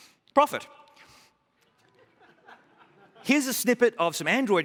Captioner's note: laughter